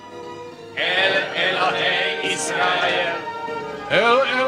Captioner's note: speaking in Hebrew; crowd repeating in Hebrew